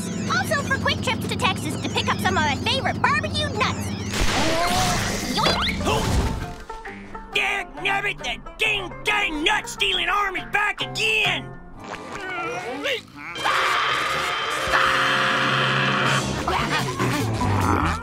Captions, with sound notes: Also for quick trips to Texas to pick up some of my favorite barbeque nuts. - Yoink! - Oh! Dang nabbit! That ding dang nut stealin' arm is back again! [screaming]